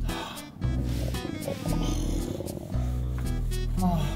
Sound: stomach roaring…

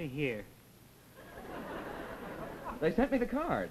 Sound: audience laughs

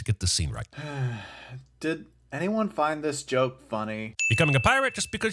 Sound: sigh

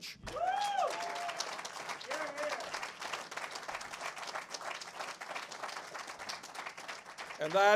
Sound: cheers and applause

